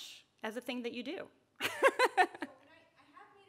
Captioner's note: laughs